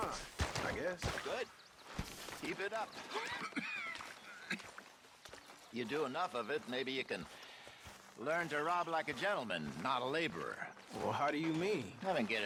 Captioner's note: coughs